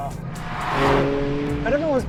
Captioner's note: vehicle revs